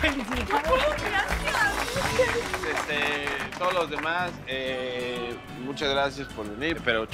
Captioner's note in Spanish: Aplauden